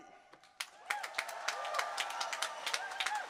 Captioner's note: applause